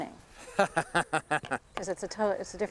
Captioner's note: laughing